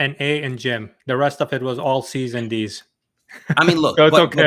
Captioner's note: laughs